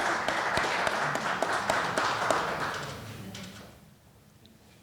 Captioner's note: audience applauding